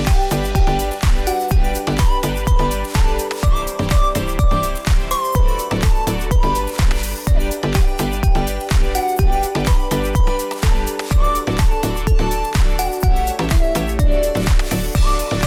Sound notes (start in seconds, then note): none